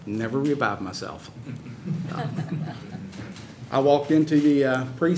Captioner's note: laughter